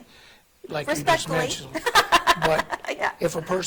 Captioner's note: laughing